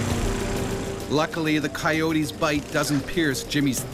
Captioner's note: voiceover